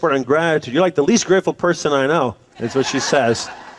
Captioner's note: laughter